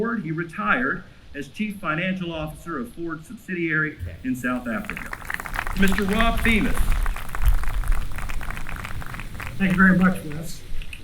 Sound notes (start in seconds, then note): 4.4 applause